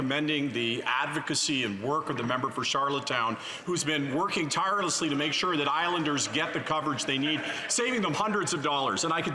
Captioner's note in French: voix de l'interprète